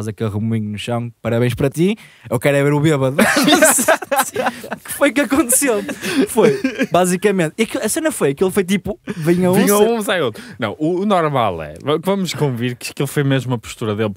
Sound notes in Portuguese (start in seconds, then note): 3.2 risos